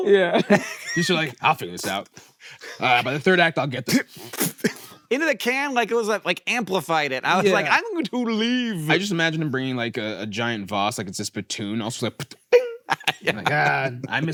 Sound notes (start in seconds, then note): 12.5 mimics spit tinging; 12.5 laughs